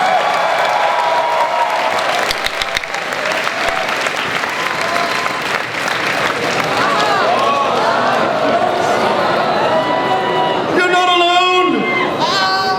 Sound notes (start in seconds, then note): 0.0 applause; 3.8 crowd cheering